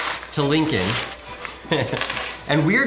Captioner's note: chuckles